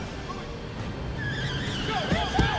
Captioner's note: tires squealing